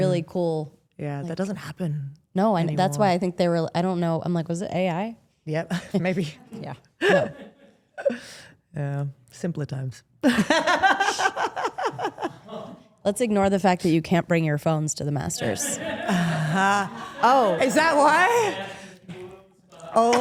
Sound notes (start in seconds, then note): 7.2 laughs; 10.6 Steph laughs